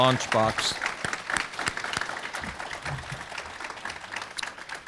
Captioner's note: audience clapping